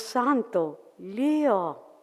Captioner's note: foreign language